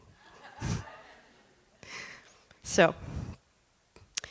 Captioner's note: laughter